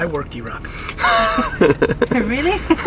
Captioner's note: laughs